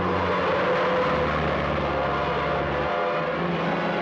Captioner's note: tires screeching